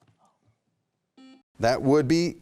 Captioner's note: bell beeping